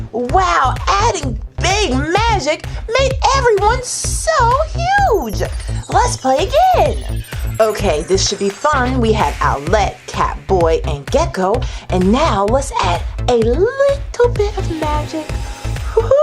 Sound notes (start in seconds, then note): none